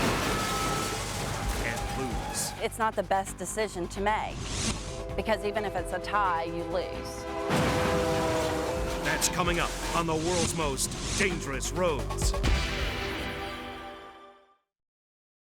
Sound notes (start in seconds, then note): 0.1 vehicles thudding; 7.4 vehicles thudding; 7.5 train horn honking